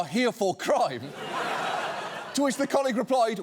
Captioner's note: studio audience laughing